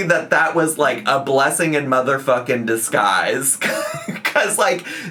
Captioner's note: laughs